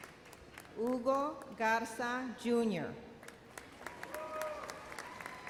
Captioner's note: audience applauds